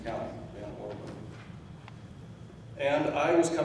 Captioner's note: speaking off mic